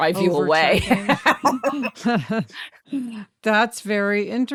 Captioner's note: laughs